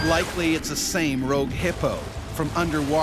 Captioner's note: voiceover